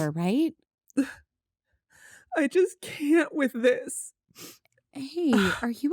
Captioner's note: upset, sniffling